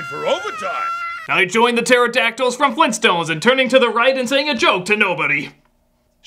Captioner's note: as Bug-a-Boo